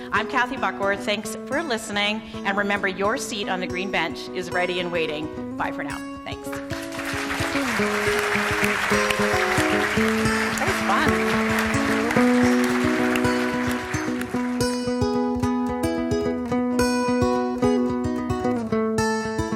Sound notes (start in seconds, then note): 6.5 audience applauding; 7.5 light music; 14.4 light music continues